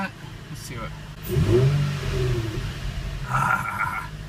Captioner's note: car rev'ing